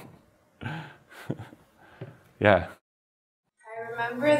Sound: chuckles

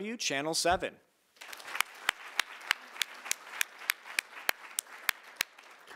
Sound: audience applauding

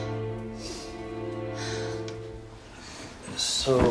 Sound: Jihyun sighs

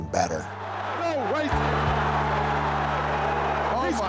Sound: crowd cheering

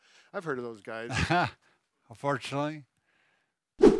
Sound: laughs

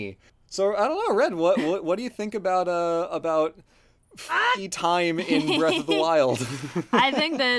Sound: laughs

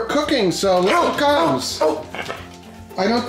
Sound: barking

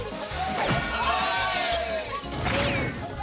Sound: crowd cheering

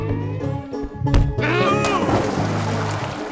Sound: חמור צועק

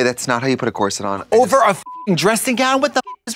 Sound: beep

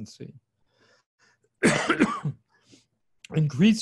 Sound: coughs

